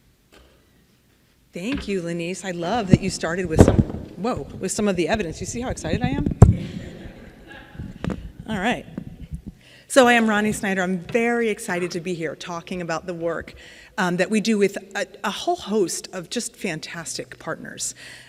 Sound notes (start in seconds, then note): 3.9 mic knocking; 6.6 audience laughing